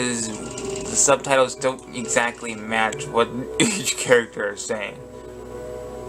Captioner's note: starts to laugh